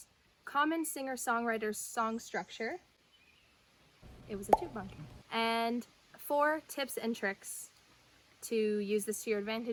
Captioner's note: pop